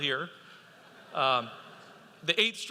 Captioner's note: audience laughing